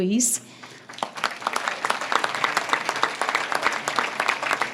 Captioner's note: audience claps